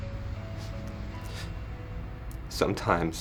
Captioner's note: sniffles